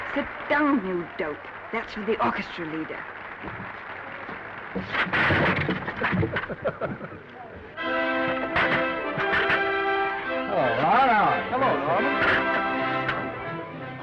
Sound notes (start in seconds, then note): 5.1 chair clattering; 5.6 Danny laughs; 7.8 orchestral music; 8.5 chair clattering; 12.2 orchestral music